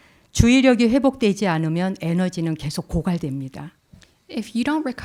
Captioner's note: speaking in Korean